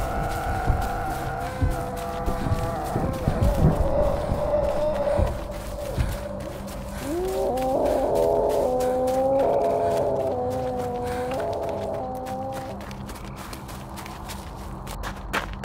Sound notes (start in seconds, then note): 0.2 suspenseful music; 8.6 Red Sister shouting